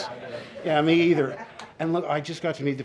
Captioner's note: laughter